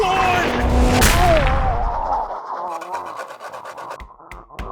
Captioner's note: pained noises